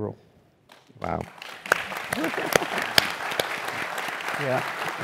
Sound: applause

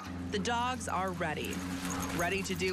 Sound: nats from dogs; nats from the dogs

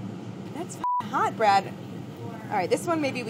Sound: beeping

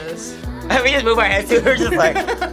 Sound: React laughs; laughs

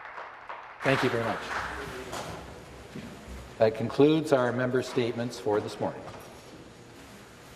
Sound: applause

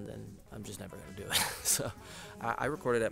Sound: laughs

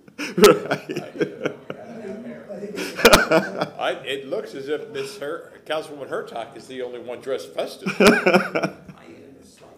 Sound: laughter

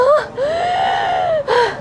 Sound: takes a big breath

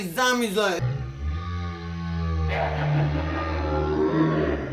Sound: zombie moans; spooky laughter; scary noises

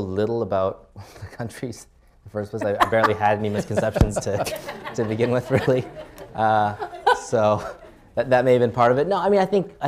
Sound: laughter

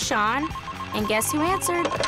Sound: phone ringing

